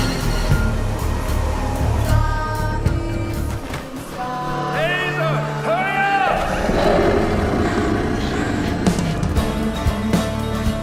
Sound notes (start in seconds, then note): 5.5 deafening roar